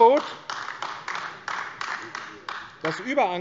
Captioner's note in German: Beifall AfD